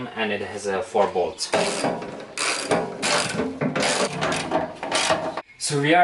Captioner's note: construction sounds